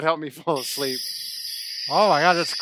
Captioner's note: crickets chirping